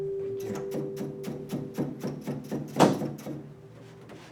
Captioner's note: loom knocking